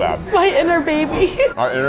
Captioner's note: laughs